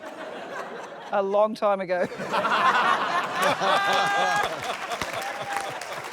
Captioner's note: laughter; laughter, applause; chuckles